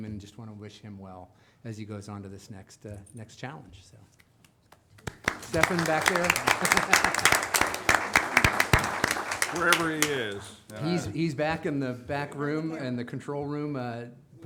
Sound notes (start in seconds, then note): 5.0 assemblage applauding; 6.9 laughing